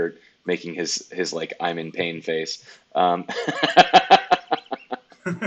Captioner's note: laughs